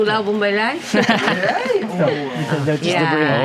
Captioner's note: giggles